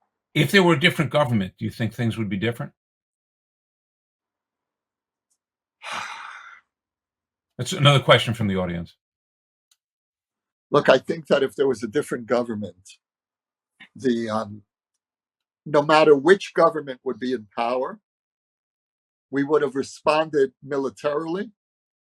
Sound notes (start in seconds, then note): 5.8 sigh